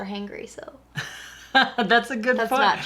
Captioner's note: laughing